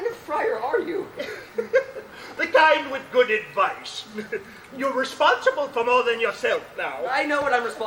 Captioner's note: laughs